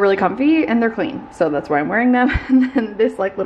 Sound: laughing

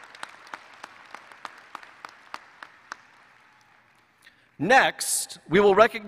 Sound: applause

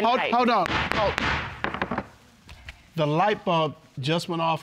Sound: gavel banging

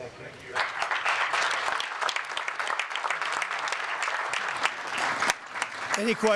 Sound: applause

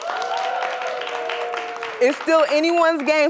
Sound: cheers and applause

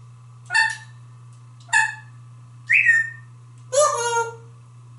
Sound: whistles

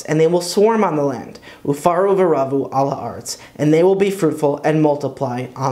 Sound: Hebrew

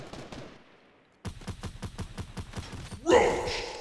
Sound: gunshots in the distance; gunshots

